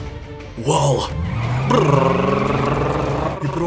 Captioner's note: even more Brrrrrrr-ing